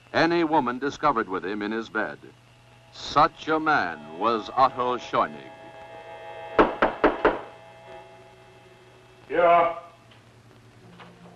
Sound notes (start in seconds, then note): 6.6 knocking on door